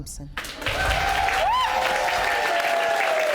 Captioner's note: audience cheering